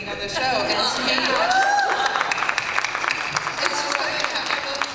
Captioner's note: applause and cheers